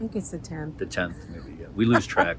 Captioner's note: laughs